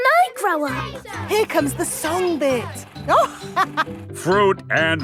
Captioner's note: chuckling